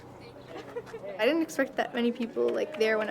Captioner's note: giggling and laughter; overlapping chatter